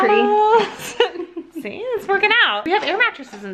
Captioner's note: giggles